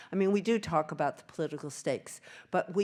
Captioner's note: none